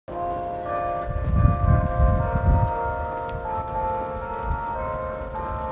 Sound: bells ringing

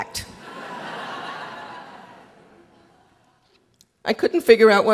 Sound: audience laughing

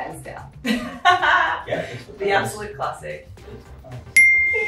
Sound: laughs

